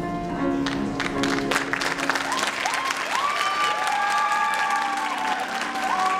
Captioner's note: applause and cheering